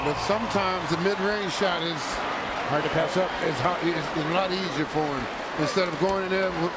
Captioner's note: crowd noise